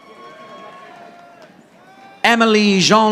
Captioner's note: audience applauding